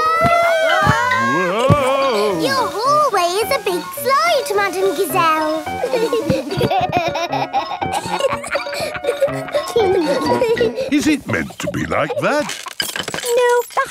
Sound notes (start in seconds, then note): 0.1 all yelling; 5.6 giggling